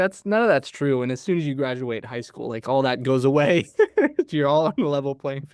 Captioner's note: chuckles